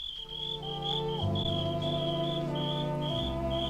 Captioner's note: crickets chirping